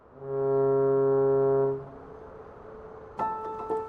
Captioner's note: fog horn blows